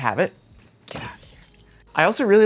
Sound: glass breaks

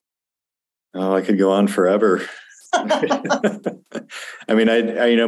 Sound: everyone laughs

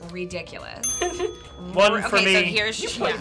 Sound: bell dings

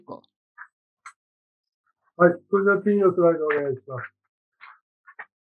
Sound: speaking japanese

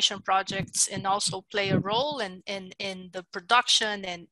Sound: foreign language

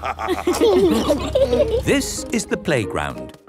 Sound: laughter

